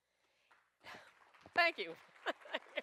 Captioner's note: applause